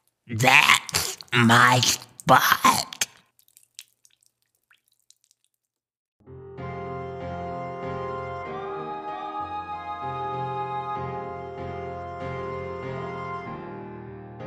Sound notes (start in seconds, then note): 2.6 gurgling water; 6.3 gentle music